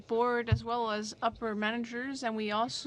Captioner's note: speaking french